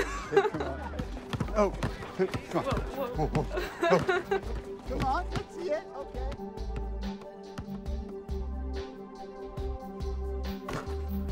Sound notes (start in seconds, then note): 3.8 mood music; 6.4 basketball bouncing